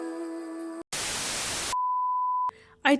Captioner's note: static